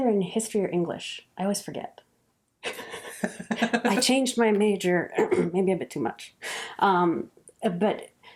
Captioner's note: laughs